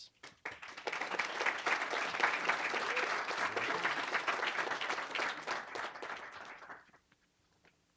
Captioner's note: applause